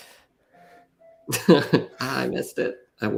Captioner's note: laughter